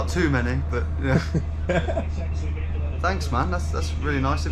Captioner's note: laughing